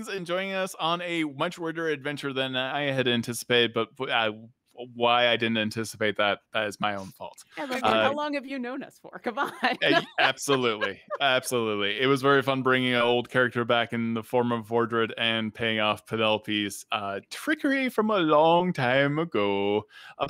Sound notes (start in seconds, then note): 9.5 laughs